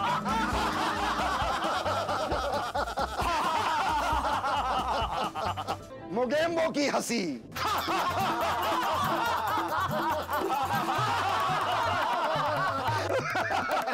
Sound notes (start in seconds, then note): 7.6 laughing